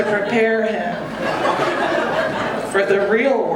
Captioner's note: audience laughing